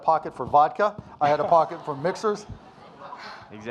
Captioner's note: audience laughing